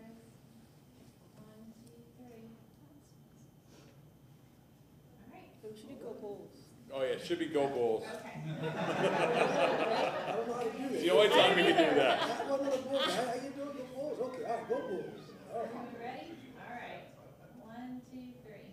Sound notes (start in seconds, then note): 12.1 laughter